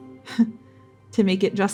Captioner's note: scoffing